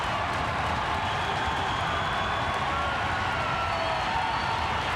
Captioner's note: crowd cheering continues